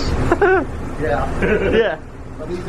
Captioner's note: laughter